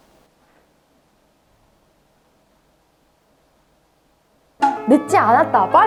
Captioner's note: 5 seconds of silence